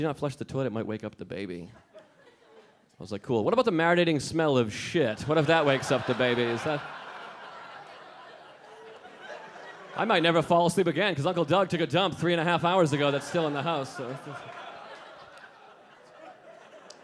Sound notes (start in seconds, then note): 1.9 a few audience members laughing; 5.4 audience laughing; 14.2 audience laughing